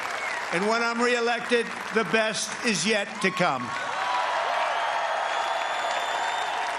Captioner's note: cheers and applause